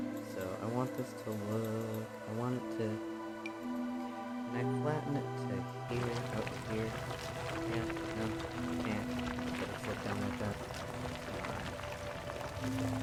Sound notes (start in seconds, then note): 8.2 muttering